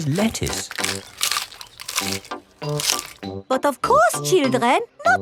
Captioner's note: munching